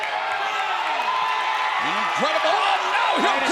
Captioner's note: crowd cheering